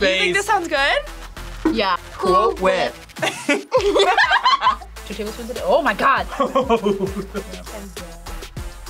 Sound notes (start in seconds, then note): 3.2 both laugh; 6.4 laughs